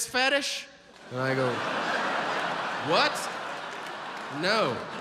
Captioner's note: audience laughs